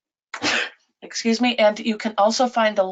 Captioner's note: sneezes